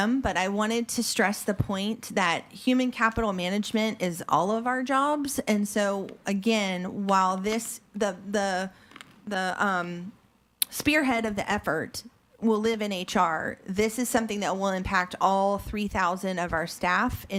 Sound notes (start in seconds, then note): none